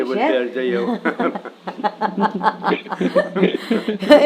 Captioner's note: they both laugh